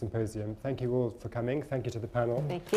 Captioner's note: applause